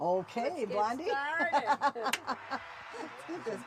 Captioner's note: laughs